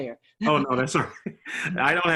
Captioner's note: laughter